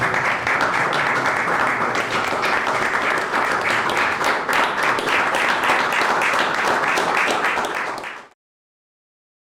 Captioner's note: applause